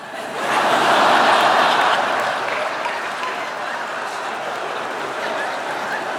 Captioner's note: laughter